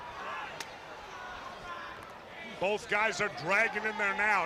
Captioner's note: crowd chatter